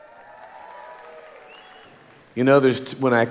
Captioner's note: audience applauding